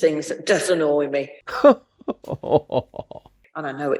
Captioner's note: laughs